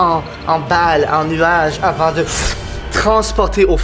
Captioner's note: whoosh